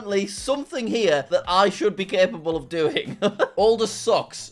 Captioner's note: laughs